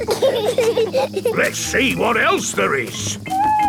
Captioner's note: bees buzzing